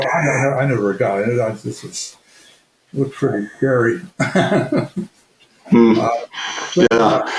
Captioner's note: laughs